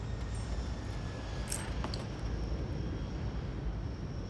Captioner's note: necklace clatters